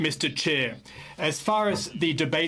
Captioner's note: speaking FRENCH